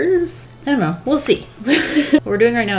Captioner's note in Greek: Γέλια